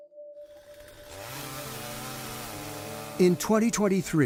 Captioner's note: chainsaw buzzing